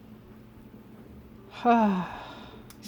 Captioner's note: heavy sigh